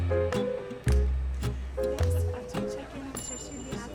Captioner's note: chattering